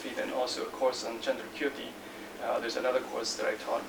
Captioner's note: non-english speech